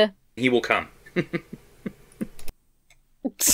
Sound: laughs self-satisfiedly

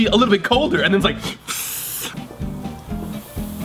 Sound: hisses; playful music

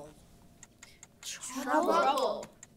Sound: timer clicking

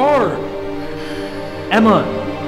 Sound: emma sighs

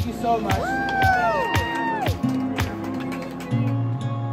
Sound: crowd cheers and applauds

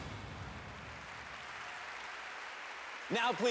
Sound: audience applauds

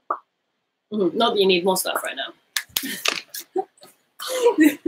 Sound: lip popping; laughing

